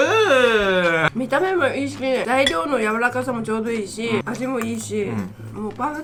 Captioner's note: mother speaking Japanese